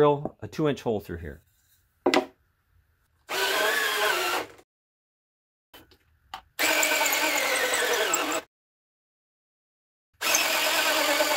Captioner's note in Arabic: أصوات حفر